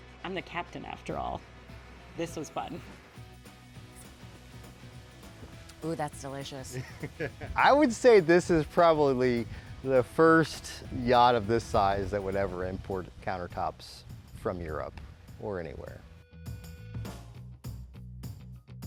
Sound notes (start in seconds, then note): 6.7 laughs